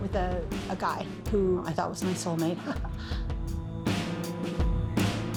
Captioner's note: chuckles